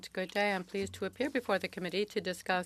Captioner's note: speaking French